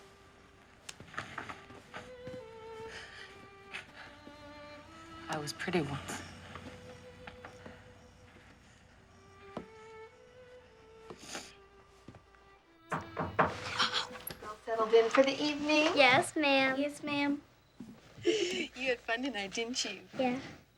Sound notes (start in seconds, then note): 11.1 sniffles; 12.8 knocking